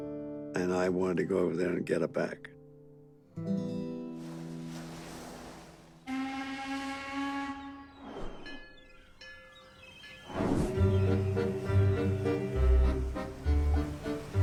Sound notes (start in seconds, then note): 6.0 boat whistle